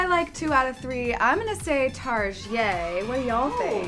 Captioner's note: crowd cheers